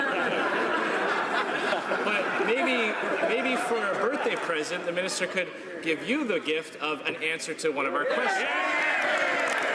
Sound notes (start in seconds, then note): 4.3 laughter